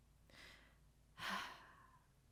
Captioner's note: sigh